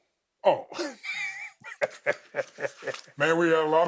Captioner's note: both chuckling